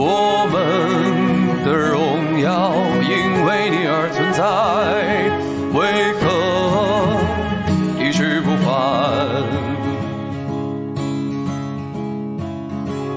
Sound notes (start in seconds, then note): none